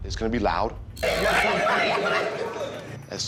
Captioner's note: inmates chattering